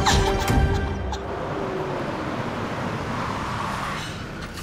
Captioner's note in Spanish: Ruido del vehículo